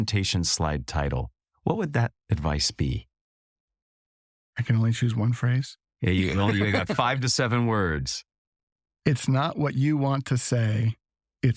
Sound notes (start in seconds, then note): 6.0 laugh